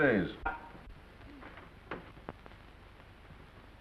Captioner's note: door opens